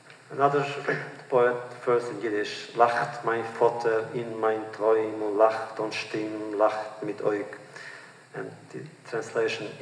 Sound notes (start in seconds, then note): 2.5 Yiddish